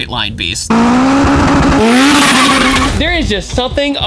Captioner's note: engine roaring